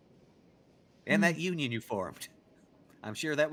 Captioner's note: chuckles